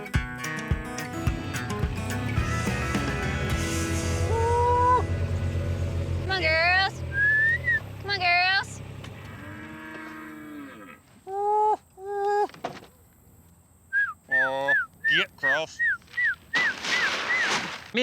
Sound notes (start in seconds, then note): 7.0 whistling; 9.1 mooing; 11.1 calling, whistling